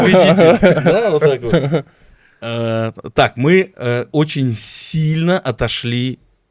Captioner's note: laughs